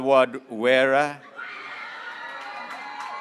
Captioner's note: graduates cheering